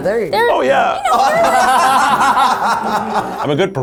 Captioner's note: laugh